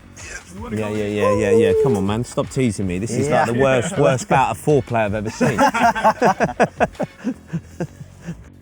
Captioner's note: laughter